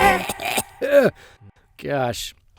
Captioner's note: cough